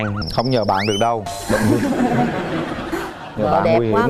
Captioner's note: laugh